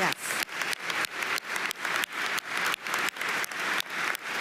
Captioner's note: audience applauding